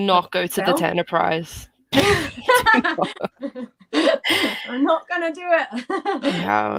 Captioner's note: laughter